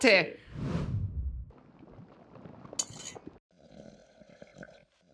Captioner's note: water boiling